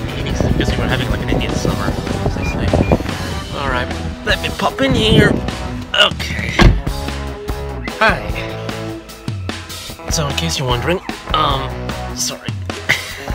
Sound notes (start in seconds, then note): 2.4 beeping; 6.4 car door closing